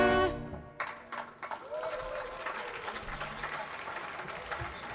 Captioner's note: audience clapping